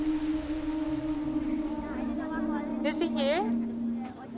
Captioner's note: wind blows